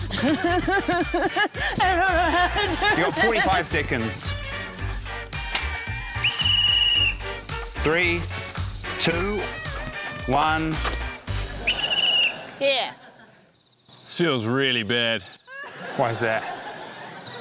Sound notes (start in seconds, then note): 0.0 pants, sobs; 6.0 blows whistle; 11.6 blows whistle